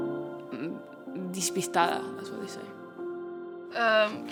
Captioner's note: in Spanish